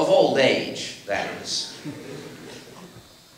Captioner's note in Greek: Γέλια από το ακροατήριο